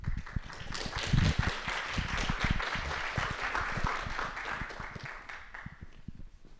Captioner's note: audience clapping